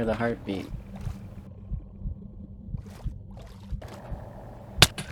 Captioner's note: heartbeat sounds